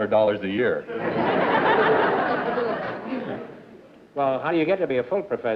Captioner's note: laughter